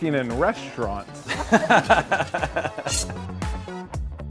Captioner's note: laughing